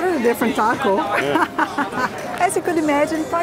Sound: laughs

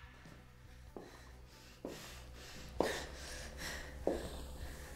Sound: labored breathing, heels on the floor

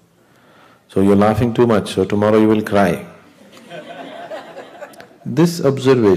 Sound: laughter

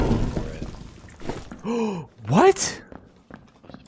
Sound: gasp

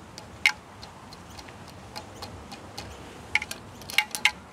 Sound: metal clangs

